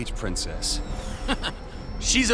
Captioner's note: chuckling